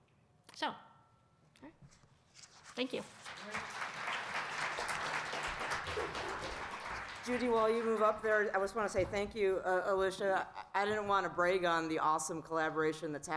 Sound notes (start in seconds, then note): 3.0 applause